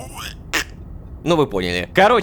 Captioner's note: quack